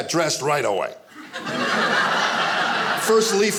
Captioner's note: audience laughing